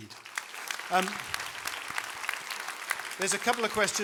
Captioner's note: applause